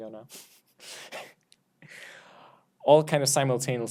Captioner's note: laughs